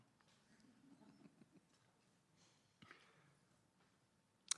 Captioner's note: attendees laughing